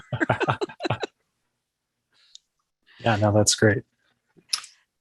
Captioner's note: laughs